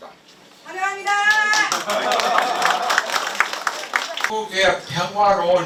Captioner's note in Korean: applause; 박수